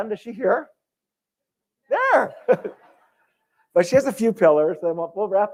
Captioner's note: laughter